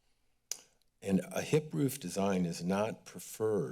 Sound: clicks tongue

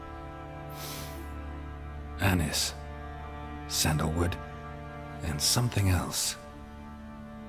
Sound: sniff

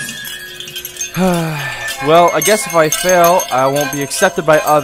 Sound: sighing

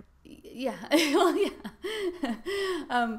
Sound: laughs

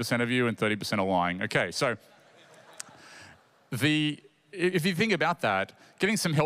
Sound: laughter

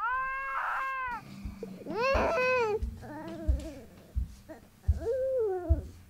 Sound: baby continues to cry

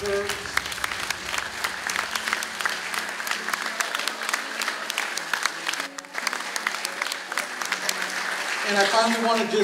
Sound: applause

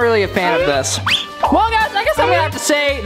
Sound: whistling

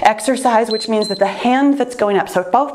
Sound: timer beeps

